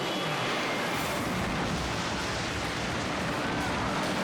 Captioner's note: explodes